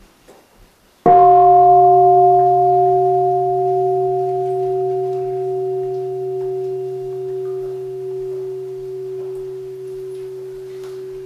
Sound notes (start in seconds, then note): 1.0 gong